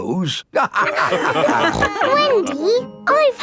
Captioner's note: all laughing